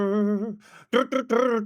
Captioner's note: humming